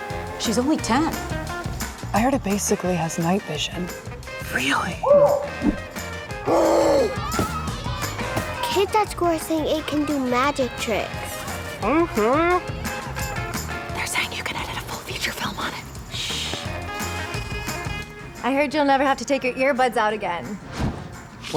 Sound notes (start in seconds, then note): 5.0 owl hoots; 6.4 gasps; 13.1 whispering